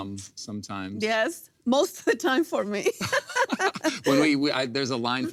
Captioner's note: laughs